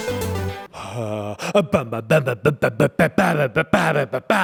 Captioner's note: vocalizes